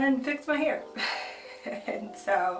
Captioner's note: laughs